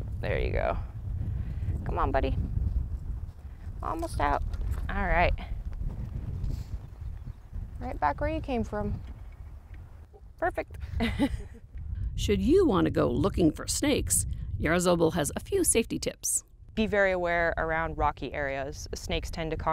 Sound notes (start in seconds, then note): 10.8 laugh